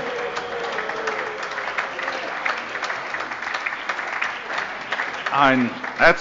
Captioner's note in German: Allgemeiner Beifall - Zurufe: Oh!